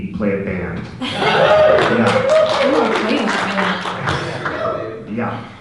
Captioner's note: audience laughter and clapping